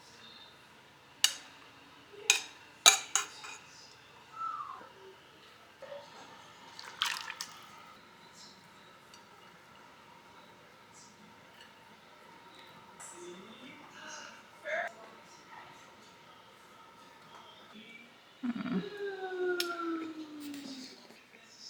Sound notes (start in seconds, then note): 18.2 A dissatisfied tsk sound